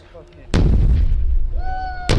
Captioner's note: blast rumbles